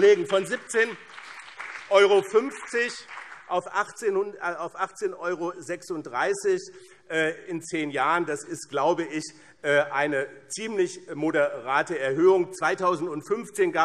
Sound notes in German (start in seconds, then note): 4.6 Beifall BÜNDNIS 90/DIE GRÜNEN